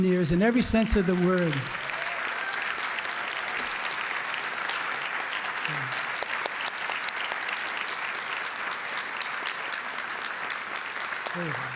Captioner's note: applause